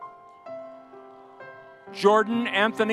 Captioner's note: audience cheering